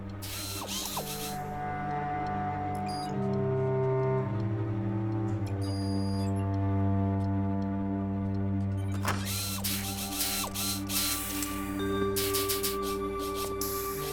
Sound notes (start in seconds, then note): 0.1 whirring; 2.5 electronic beeping; 8.9 whirring